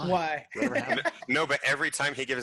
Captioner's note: laughing